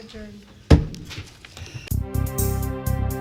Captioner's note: gavel bangs